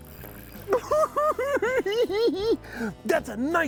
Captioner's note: cackling